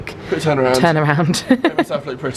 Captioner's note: laughs